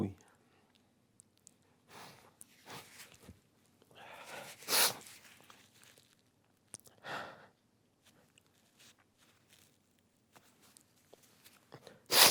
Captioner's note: pause